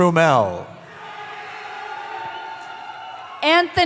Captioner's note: cheering